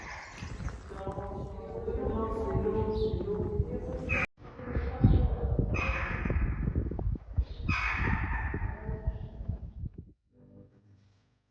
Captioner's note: echoing sounds